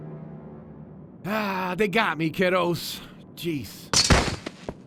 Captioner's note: sighs